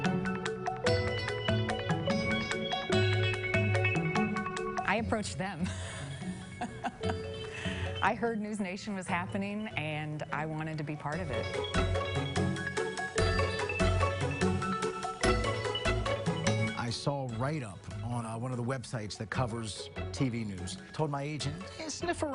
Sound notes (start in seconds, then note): 0.2 bright upbeat music; 5.6 laughs; 15.1 bright upbeat music